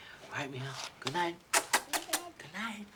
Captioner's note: kissing